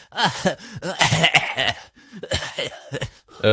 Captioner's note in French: fou rire; tousse